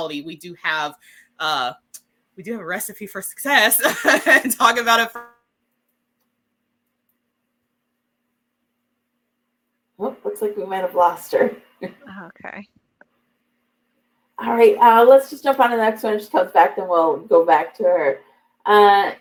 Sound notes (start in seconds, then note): 3.7 laughter